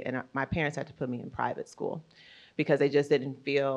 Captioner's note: none